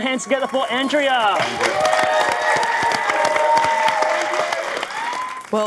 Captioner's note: audience applauding